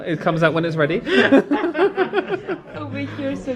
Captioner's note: laugh